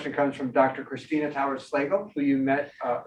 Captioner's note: speaking faintly